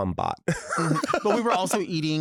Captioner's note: laughs